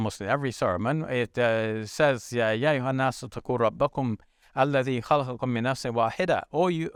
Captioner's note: speaking in foreign language